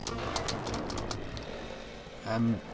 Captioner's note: frantically tapping the Spacebar